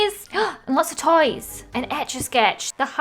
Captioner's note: gasps